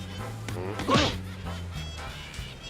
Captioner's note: grunts